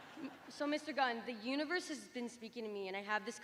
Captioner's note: laughter